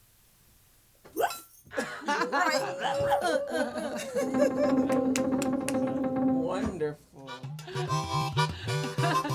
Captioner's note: laughter...applause